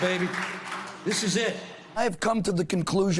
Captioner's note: applause